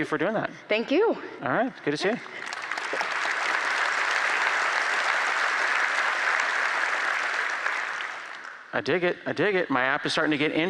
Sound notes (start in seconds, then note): 7.4 applause